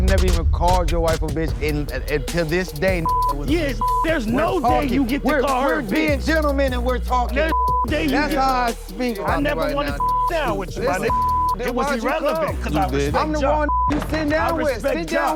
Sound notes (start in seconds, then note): 3.0 beep; 7.5 beep; 11.0 beep; 13.6 beep